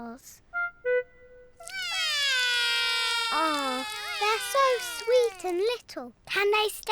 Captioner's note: both whinny; both wail